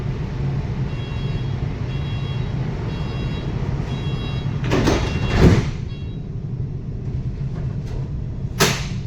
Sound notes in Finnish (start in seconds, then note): 0.6 ovien sulkeutumisääni; 8.6 ovimekanismin lukkiutumisääni ja kiihdytys